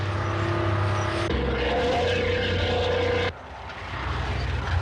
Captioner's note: tank engine rumbling